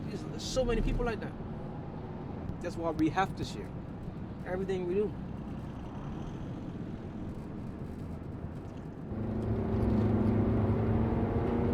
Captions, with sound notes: There's so many people like that. That's why we have to share everything we do. [van accelerating]